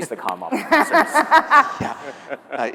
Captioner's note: everyone laughing